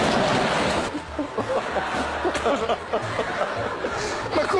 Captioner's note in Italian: Risate del pubblico